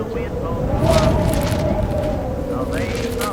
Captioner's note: wind howling